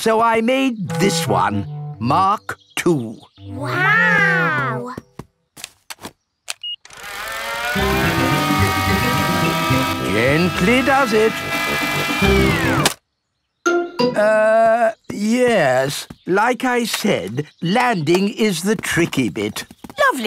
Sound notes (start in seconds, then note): 6.6 beeps; 6.9 plane humming; 12.5 humming stops